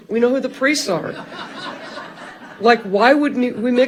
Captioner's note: audience laughing loudly